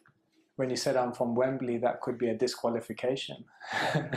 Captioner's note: laughter